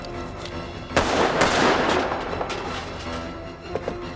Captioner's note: gun firing